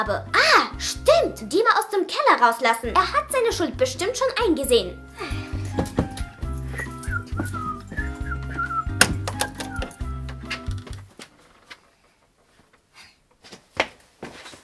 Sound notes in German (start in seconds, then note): 5.1 Sie seufzt; 6.6 Sie pfeift